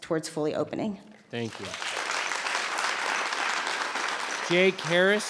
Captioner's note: audience applauds